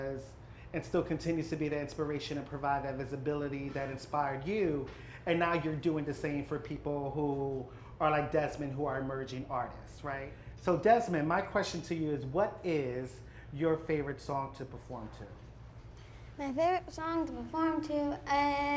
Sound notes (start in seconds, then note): none